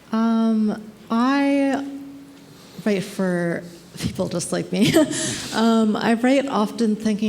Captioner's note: laughs